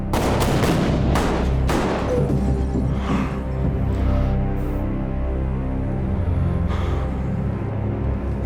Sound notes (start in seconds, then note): 2.7 Tommy gasping